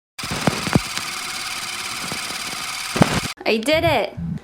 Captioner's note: projector clicking